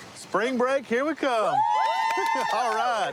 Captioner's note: cheering